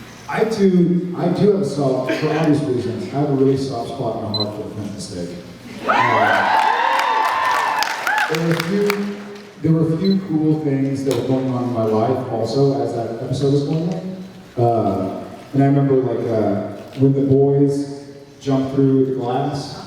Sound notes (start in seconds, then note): 5.8 cheers, applauds